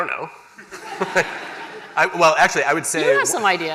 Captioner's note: laughter